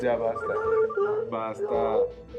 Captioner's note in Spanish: suena el celular